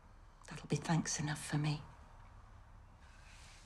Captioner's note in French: none